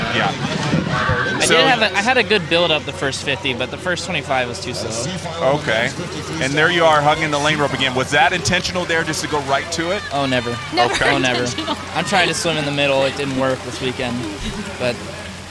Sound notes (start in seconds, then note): 11.5 laughingly